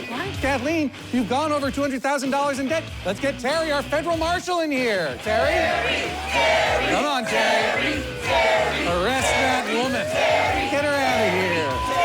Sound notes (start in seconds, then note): 5.2 audience chanting